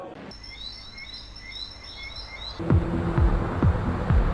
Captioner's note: crickets chirping; exciting techno beat music